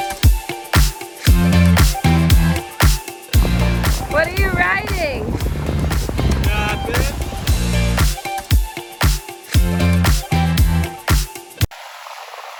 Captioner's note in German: Applaus